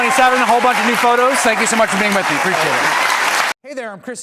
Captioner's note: applause